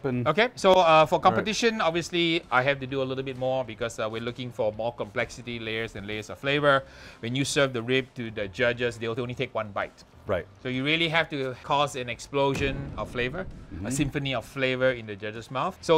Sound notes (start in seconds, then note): 12.5 explosion sounding